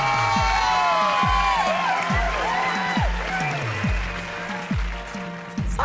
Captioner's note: cheering